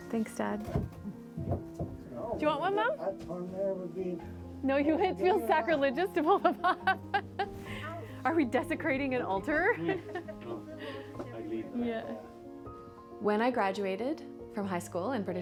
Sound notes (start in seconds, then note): 9.7 laughing